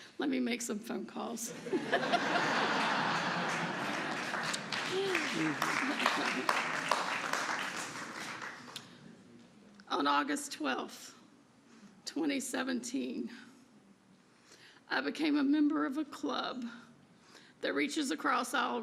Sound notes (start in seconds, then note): 7.0 laughter; 11.5 applause